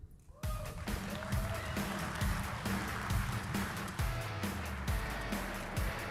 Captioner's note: audience applauding; upbeat music